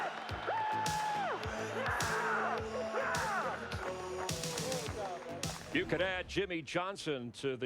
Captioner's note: cheering